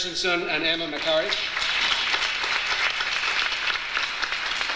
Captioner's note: audience applauds